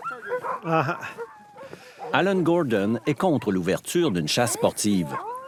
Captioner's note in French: aboiements